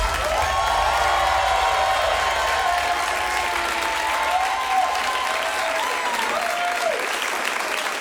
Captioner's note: applause